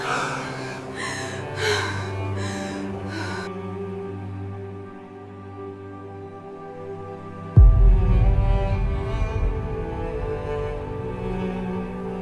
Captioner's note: breathing heavily